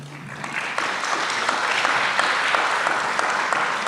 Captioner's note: applause